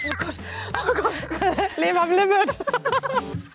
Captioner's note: laughing